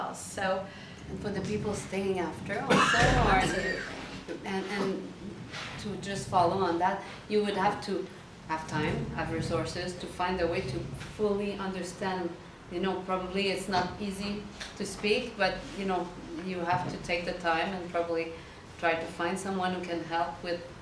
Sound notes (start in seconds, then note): 2.6 audience members coughs drowning out professors